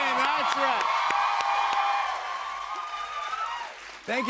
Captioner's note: cheers and applause